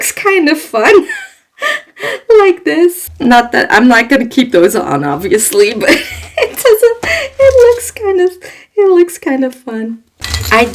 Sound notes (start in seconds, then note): 1.1 laughs